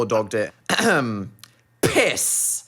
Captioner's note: Dan clears his throat